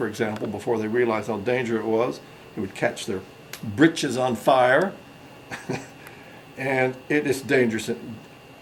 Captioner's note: chuckles